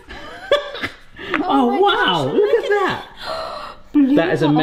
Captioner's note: both laughing; gasps